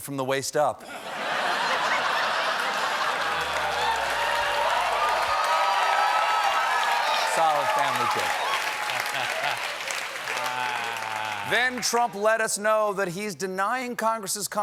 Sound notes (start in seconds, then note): 0.2 applause; 0.8 laughter; 0.9 cheers